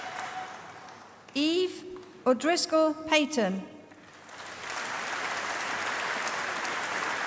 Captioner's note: applause